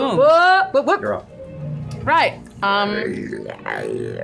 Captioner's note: gurgling